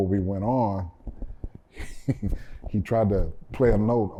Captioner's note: laughter